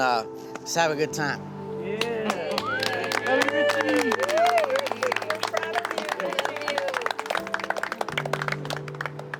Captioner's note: applause